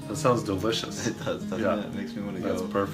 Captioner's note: laughs